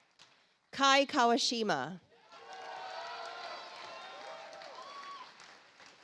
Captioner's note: audience applauds